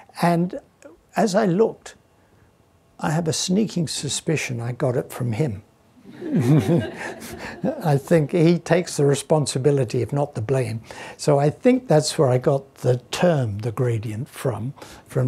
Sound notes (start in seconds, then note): 6.1 laughs